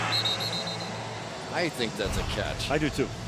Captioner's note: whistle